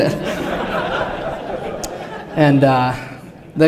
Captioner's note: laughter